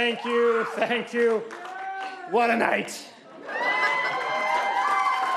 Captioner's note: applause